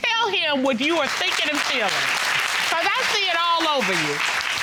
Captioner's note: audience clapping